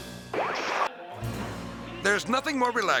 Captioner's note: TV interference chirping